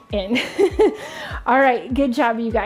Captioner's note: laughing